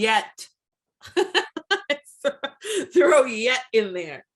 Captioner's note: laughs